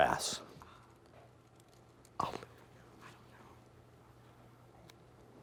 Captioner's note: students whispering